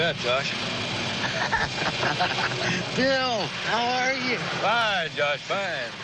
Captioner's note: laughs